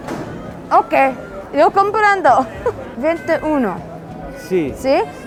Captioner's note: spanish